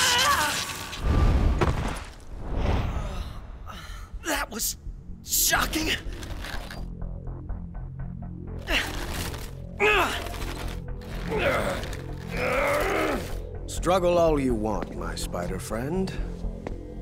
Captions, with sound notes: That was shocking. [STRUGGLING NOISES] Struggle all you want, my Spider friend.